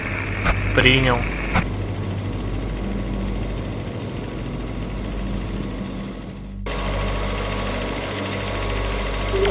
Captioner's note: helicopter blade noise